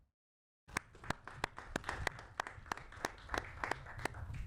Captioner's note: applauding